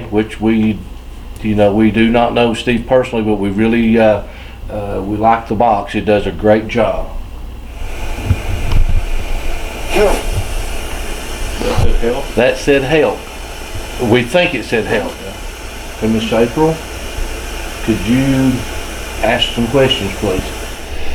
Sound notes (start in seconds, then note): 10.1 radio voice